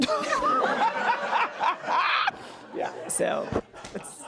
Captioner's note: laughs loudly